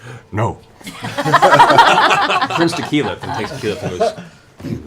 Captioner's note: laughter